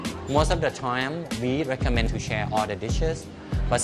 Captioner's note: none